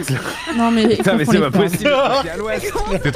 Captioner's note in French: rires